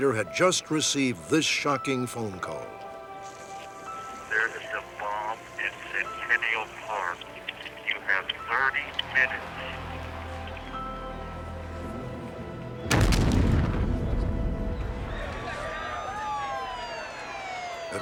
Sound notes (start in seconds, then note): 12.9 explosion; 14.6 screams, sirens